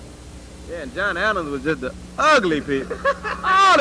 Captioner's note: laughter